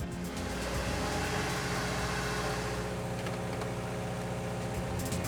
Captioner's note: mechanical whirring